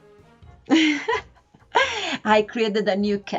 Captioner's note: laughs